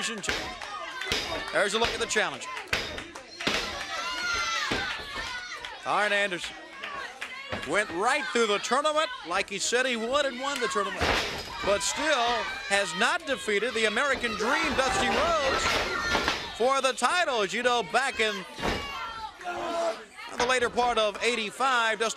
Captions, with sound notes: ANDERSON OR GET HIM TO SUBMIT HE WILL BE THE NEW WORLD TELEVISION CHAMP. THERE'S A LOOK AT THE CHALLENGER. >> [CROWD CHATTER] >> ARN ANDERSON WENT RIGHT THROUGH THE TOURNAMENT LIKE HE SAID HE WOULD HAVE WON THE TOURNAMENT BUT STILL HAS NOT DEFEATED "THE AMERICAN DREAM"